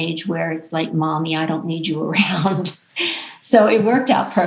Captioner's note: chuckles